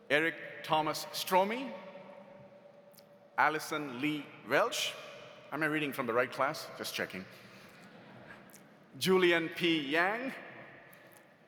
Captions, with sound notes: Eric Thomas Stromme. Allison Lee Welch. Am I reading from the right class? Just checking. (audience laughs) Julian P. Yang.